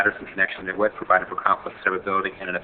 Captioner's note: speaks quickly